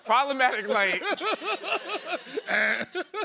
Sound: laughter

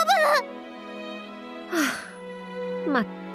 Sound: sigh

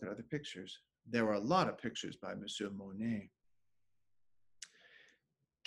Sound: speaking French

